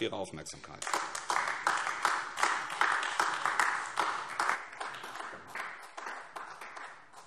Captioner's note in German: Beifall AfD